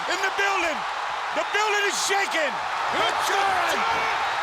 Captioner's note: audience cheering